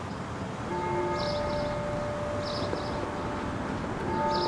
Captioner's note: bells tolling